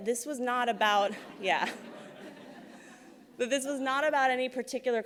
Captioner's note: laughs